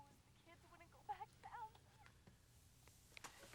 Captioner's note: woman on telephone fussing